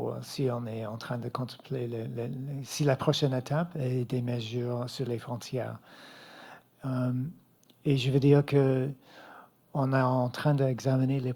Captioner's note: speaking French